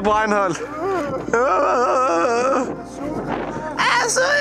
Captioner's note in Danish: Groaning like Chewbacca